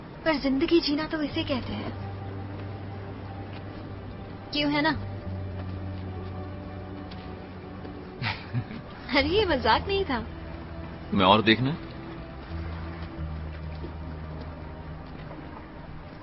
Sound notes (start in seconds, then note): 8.1 chuckling